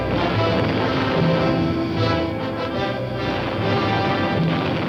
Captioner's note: bombs exploding